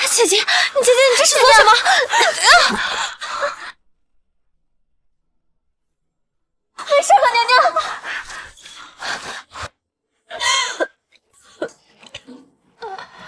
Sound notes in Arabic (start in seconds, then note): 10.4 سعال